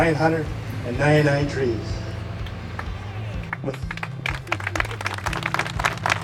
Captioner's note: applause